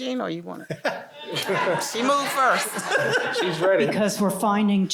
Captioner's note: laughter